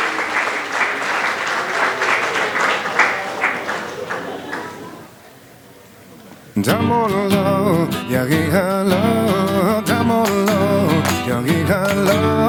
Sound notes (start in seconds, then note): 6.8 non-english